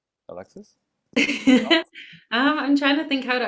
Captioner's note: laughs